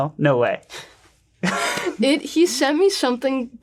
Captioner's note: laughs